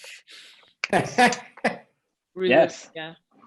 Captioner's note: chuckles